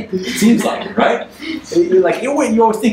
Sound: audience laughs

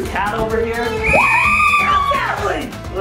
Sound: mom cheering

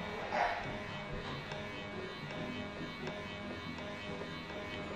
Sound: plane buzzing

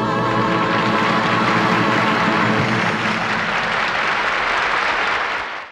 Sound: audience applauds

